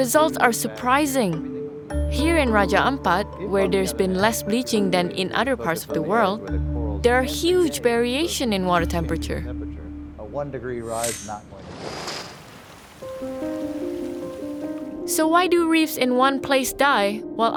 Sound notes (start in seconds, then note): 11.6 waves sounding; 13.0 dramatic piano music